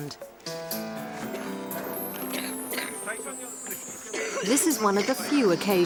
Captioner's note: coughing